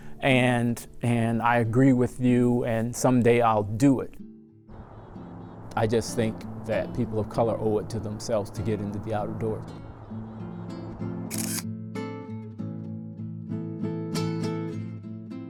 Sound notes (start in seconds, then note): 11.3 camera shutter clicking; 12.4 peaceful music